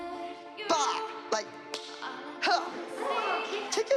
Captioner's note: grunts